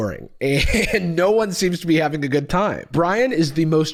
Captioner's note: laughs